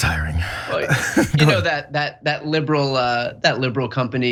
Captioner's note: laugh